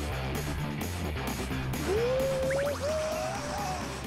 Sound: bumpy truck

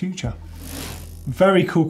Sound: bike wheel whirring

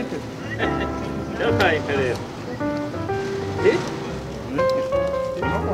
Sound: Laughing at Kimondo

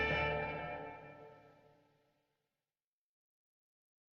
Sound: silence

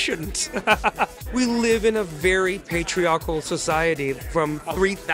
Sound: laughs

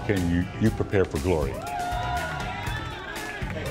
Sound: all cheering

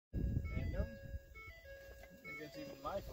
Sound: annoying truck dinging and intelligible muttering

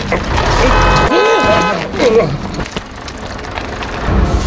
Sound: horn honking

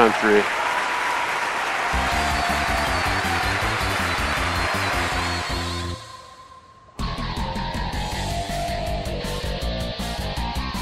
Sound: Oods breathes heavily

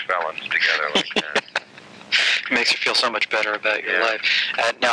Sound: laughing

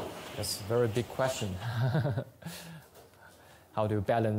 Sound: laughs

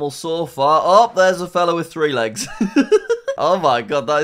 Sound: laughs

